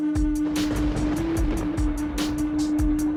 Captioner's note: playing flute; thunder booms; playing flute